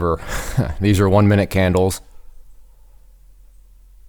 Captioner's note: laughing